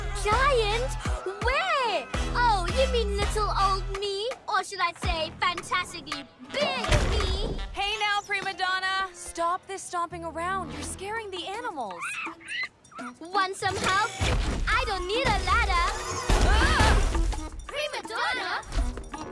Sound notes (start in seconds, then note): 12.0 soft cry